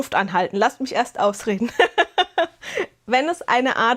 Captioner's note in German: Gelächter